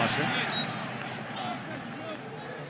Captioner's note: whistle blows